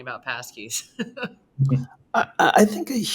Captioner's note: laughs